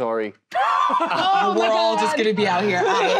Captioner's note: laughter